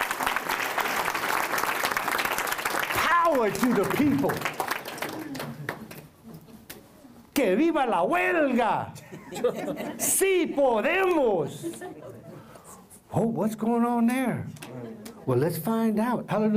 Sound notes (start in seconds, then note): 0.0 applause; 7.2 foreign Language